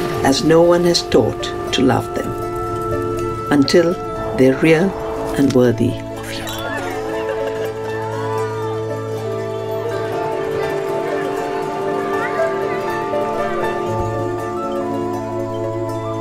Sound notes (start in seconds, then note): 7.0 gentle music; 8.4 people celebrating; 12.4 gentle music